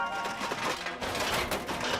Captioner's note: metal clanging